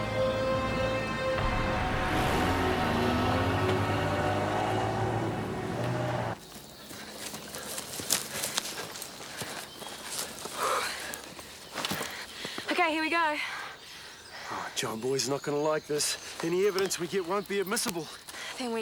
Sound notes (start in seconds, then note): 2.4 car engines revving; 5.7 footsteps tapping; 7.0 birds chirping; 10.8 Jodie sighs